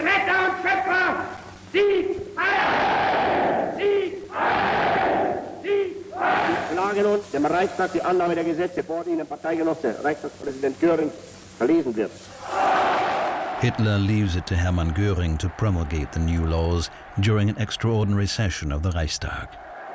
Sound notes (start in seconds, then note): 0.3 man speaking german; 5.3 crowd shouting "sieg heil!"